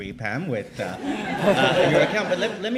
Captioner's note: laughs